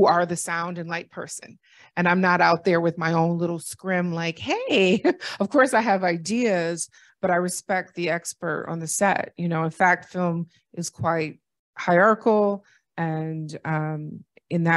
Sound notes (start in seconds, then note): 4.6 laughter